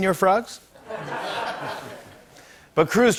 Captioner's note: laughter